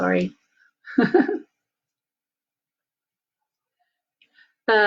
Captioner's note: laughing